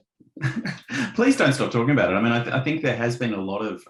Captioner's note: laughs